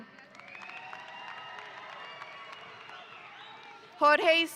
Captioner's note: audience applauding